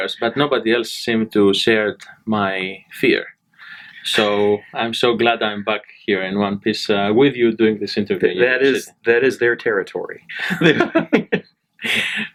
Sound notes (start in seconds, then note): 3.3 laughs; 10.3 laugh